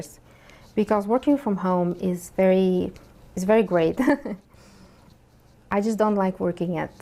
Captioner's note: chuckles